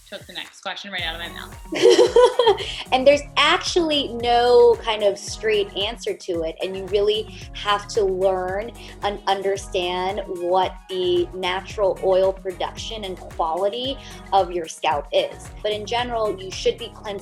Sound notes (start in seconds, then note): 1.7 laughs